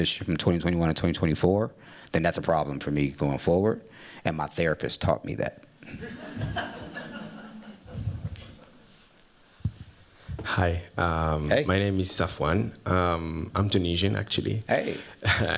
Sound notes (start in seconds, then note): 5.8 laughter